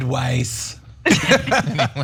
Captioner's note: laugh